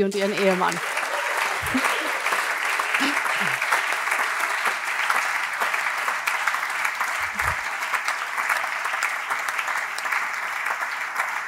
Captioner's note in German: Allgemeiner Beifall